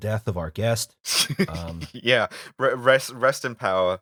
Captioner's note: laughter